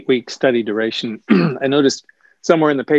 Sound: clears throat

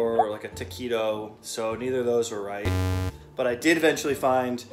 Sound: buzzing

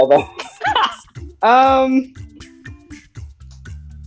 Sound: laughs

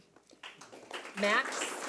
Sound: audience clapping

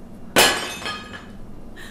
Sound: plate breaks

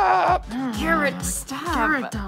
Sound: through clenched teeth

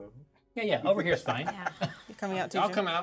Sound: speaker laughs

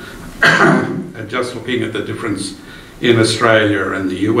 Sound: coughs

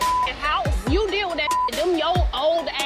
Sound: beep

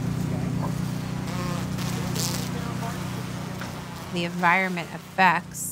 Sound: bees buzzing

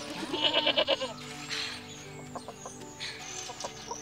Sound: goat bleating

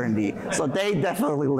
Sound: laughter

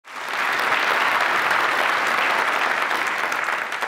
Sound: applause

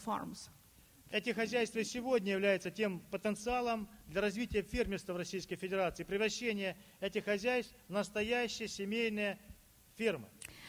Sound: speaking Russian

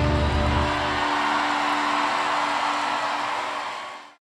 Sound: applause

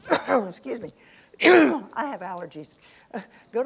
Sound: coughs

